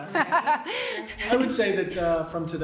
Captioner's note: laughing